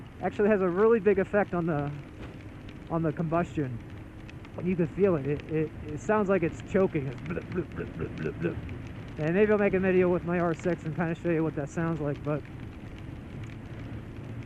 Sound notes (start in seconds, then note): 7.0 choking noises